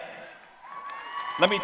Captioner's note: applause